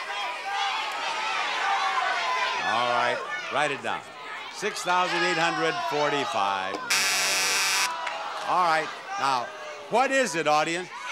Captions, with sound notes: (audience shouting numbers) All right, write it down. 6,845. (buzzer blares) No. All right. Now, what is it audience?